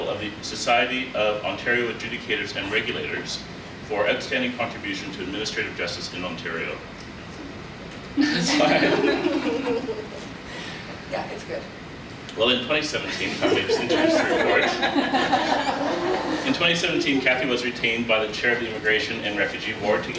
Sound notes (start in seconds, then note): 7.1 whispers; 8.2 panelists laugh; 13.1 panelists laugh